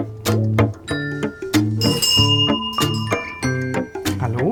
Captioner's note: playful music; the bell rings